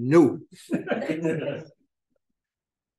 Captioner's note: laughter